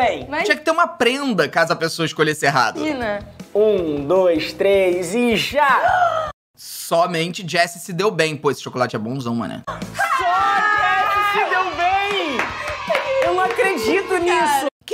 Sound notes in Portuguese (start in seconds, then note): 3.5 faz som de surpresa